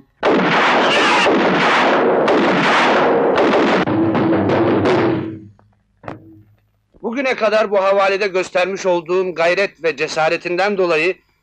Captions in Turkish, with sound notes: [Silah sesleri] Bugüne kadar bu havalide göstermiş olduğun gayret ve cesaretinden dolayı...